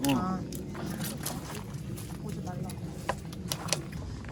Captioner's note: cracking scallops mercilessly